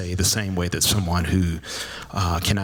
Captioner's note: none